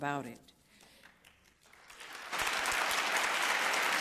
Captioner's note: applause